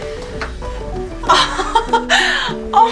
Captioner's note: laughs